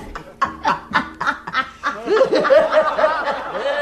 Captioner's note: laughter